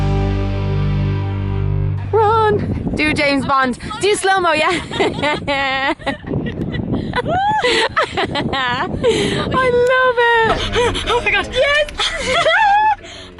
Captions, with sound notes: - Run. Do James Bond. Do slow mo, yeah. (laughter) - Oooh! - Yeah! - I love it! - Ah, oh my God! - Yes!